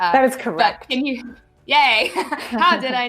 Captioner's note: laughs lightly